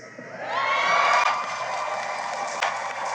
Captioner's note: cheering and applause